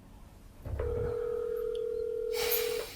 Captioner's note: phone ringing